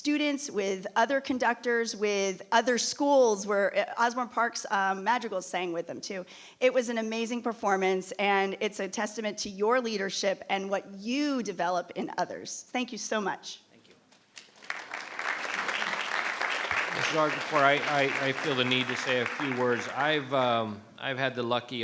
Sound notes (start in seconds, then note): 14.3 audience clapping